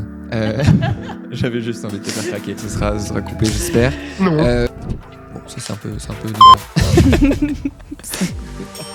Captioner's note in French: rires; bip